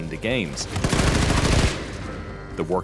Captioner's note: gunfire